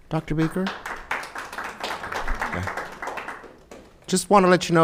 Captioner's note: audience clapping